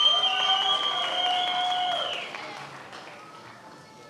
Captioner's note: many applauding